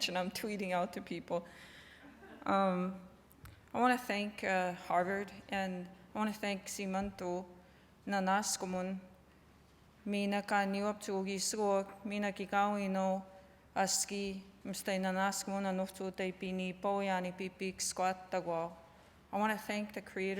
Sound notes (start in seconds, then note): 6.7 non-english speech